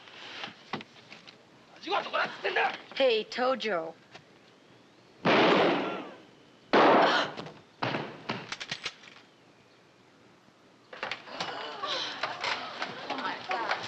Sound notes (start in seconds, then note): 5.2 gunshots; 11.2 gasping